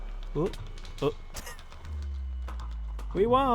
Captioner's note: laughs